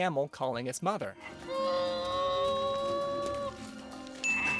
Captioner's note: baby T-Rex roaring with a broken leg